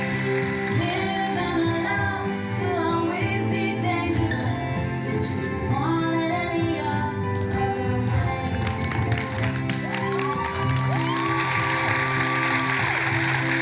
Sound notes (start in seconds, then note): 8.5 applause; 10.6 cheering